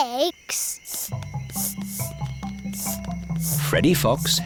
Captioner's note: sniffing